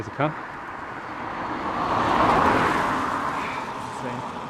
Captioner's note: awkward wave as car whooshes past